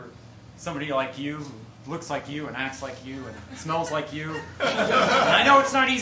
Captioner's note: laughter